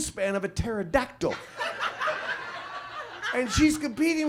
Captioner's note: audience laughs